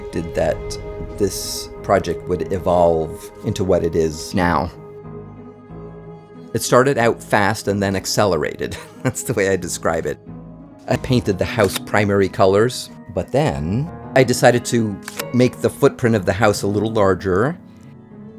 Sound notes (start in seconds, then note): 8.7 chuckling